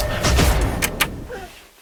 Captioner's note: click